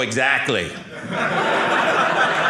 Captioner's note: audience laughing